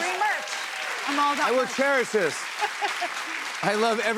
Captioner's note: applause